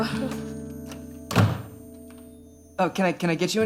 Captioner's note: door closes